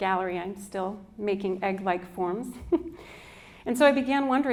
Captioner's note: chuckles